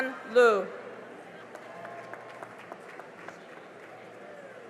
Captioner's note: cheering and applause